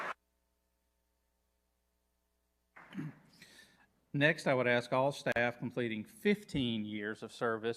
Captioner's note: applause